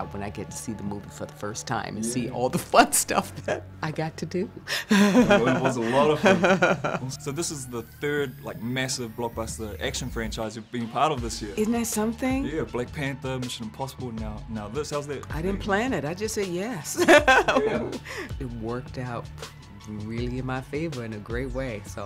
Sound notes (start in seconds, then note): 4.7 laughing; 17.0 laughing